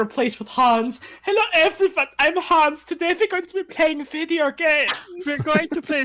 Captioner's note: drawled German accent